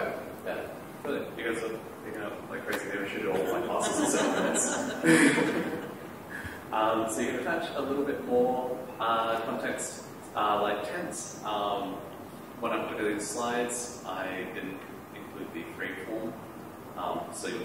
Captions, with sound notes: >> Perfect. [ Laughter ] So, it's -- let's see. You can attach a little bit more context like tense. When I did these slides, I didn't include the freeform.